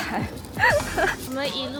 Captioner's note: laughing